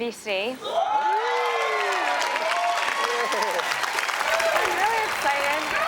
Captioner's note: audience cheers and applauds